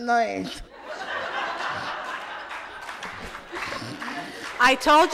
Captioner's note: audience laughs